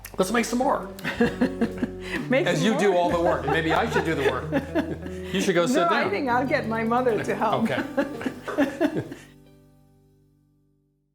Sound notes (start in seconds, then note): 7.5 they laugh